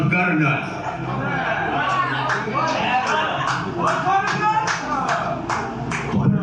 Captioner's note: sarcastically; clapping; mockingly